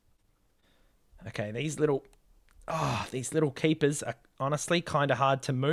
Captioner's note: ahh!